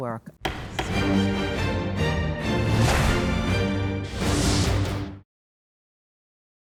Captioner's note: gavel banging